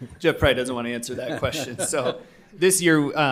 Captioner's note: chuckling